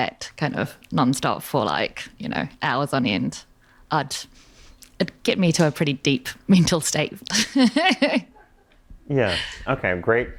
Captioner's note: laughter